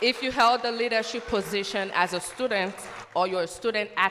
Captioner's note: cheers and applause